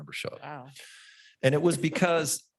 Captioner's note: laughs